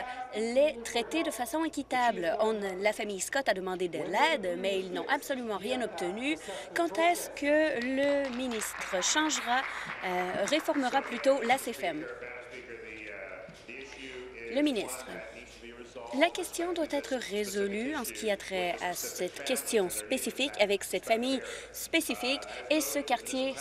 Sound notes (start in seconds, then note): 11.3 applause